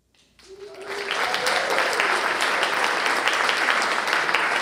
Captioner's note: applause